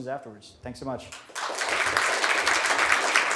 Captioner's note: applause